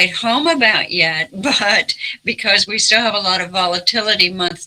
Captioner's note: chuckles